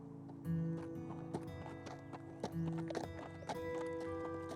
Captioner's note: horse hooves